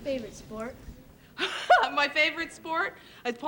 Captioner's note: laughs